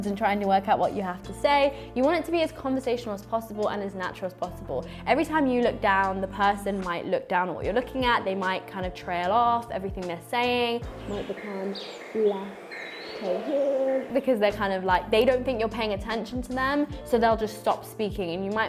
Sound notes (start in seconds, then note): 10.8 distant chattering; 12.8 birds chirping